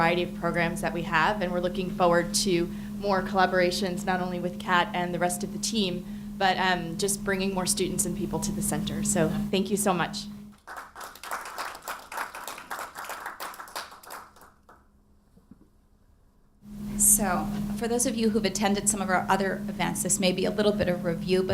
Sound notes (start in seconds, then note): 10.5 audience clapping